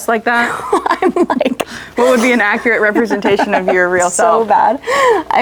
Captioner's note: laughs